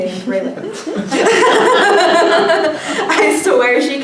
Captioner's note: laughter